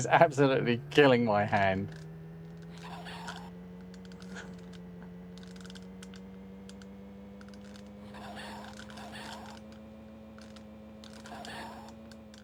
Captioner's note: typing